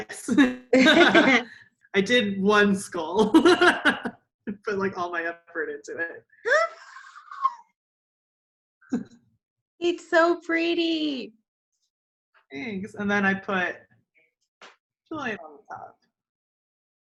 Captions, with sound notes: Yes. I did one skull, (laughs) put like all my effort into it. (gasps) It's so pretty. Thanks and then I put Julian on the top